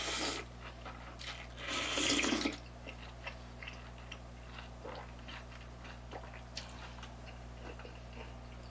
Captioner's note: like a cow chewing cud